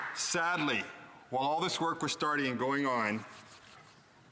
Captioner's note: applause